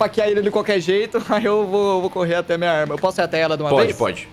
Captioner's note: giggles